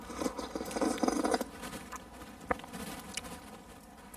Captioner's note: Tony slurping